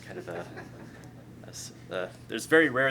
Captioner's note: laughter